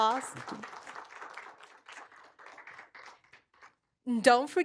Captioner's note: applause